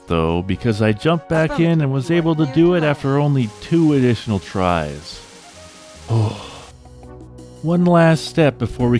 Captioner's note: sigh of relief